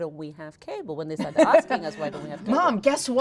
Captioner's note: laughing